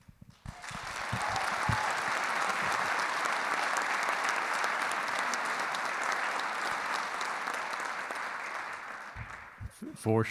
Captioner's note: clapping